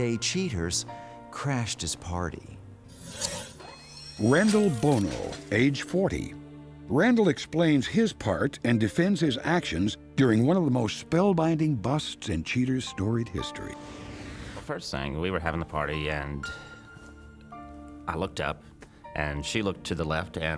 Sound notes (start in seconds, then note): none